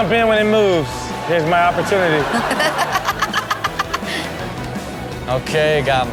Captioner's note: Chanel laughs